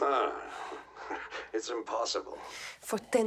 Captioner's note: laughs